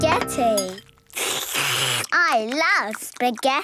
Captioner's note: slurping